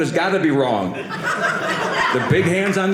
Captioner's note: audience laughing